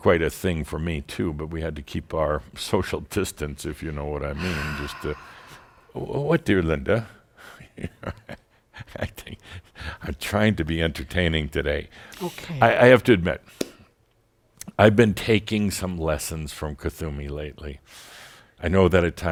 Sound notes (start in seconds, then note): 4.3 sighs deeply; 8.5 Adamus chuckles